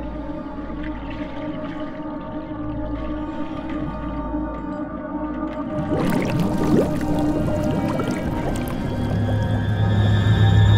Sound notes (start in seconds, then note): 5.6 water bubbling